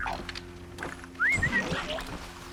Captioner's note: whistle